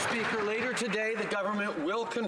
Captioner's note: some Applause